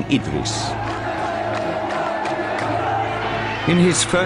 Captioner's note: sound of people cheering